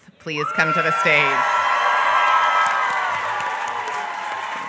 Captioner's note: applause